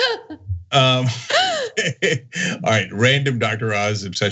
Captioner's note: laugh